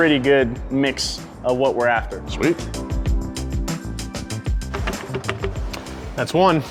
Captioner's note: none